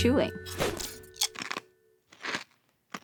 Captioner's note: chewing